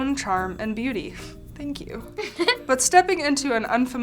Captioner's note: laughs